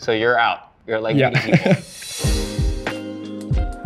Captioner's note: chuckles; bright music